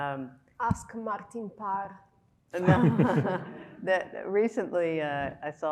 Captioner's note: laughing; speaking Scottish